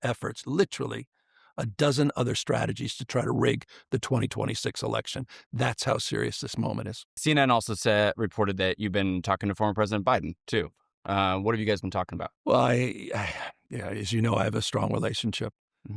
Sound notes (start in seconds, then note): 12.5 sighs